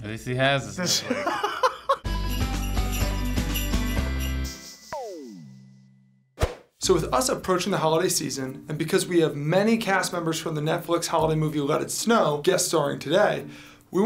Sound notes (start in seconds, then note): 0.8 laughs; 2.0 jingle bells ringing